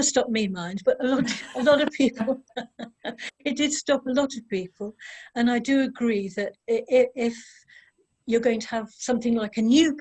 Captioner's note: laughter